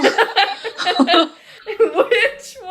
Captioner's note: more pained laughter